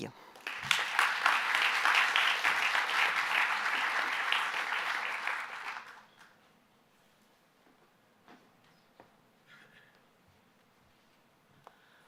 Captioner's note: applause